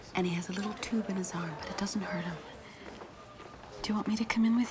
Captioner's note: none